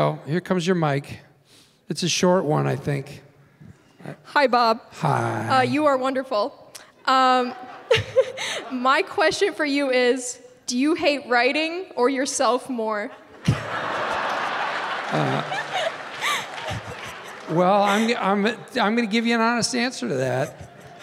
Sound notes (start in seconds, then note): 7.4 laughing; 13.0 audience laughing